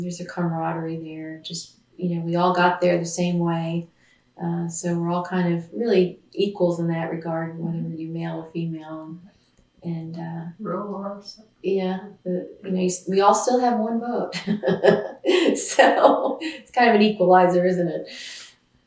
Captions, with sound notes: There’s a camaraderie there. We all got there the same way so we’re all kind of really equals in that regard, whether you’re male or female, and… Rural or suburban. Yes, we all still have one vote. (Laughs) It’s kind of an equalizer, isn’t it?